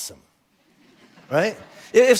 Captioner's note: congregation laughing